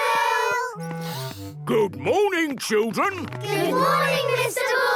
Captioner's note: sniffs